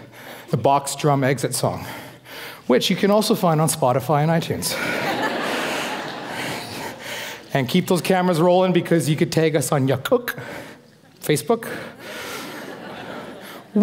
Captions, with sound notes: Which is The Box Drum Exit Song, which you can also find on Spotify and iTunes. (laughing) And keep those cameras rolling because you can tag us on (foreign speaking), Facebook, (foreign speaking),